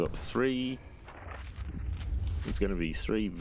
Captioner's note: pages turning